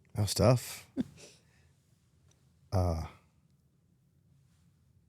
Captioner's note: Stephanie giggles